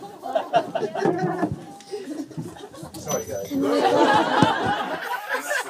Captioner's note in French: rires